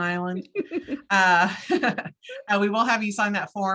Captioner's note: both laugh